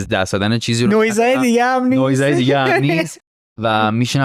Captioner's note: laughs